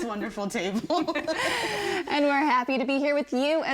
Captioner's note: everyone laughing